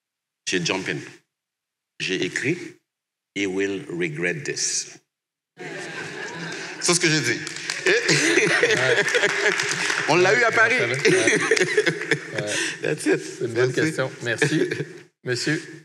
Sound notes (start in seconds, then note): 7.7 laughter and applause; 11.1 laughter